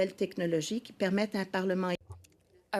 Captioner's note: speaking French